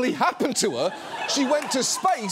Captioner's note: studio audience laughs